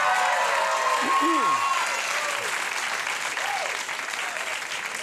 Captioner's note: audience cheers; clears throat